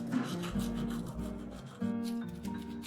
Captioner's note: sound of toothbrush; subtle music